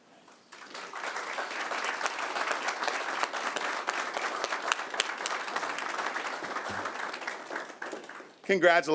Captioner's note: applause